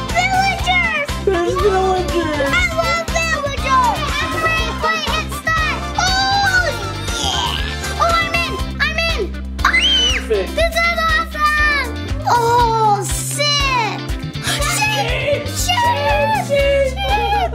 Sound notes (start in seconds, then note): 9.7 screams